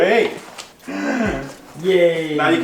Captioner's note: gasping